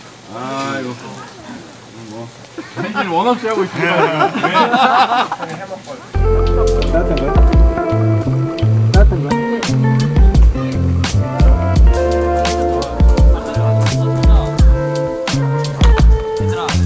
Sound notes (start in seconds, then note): 3.7 haha, more laughter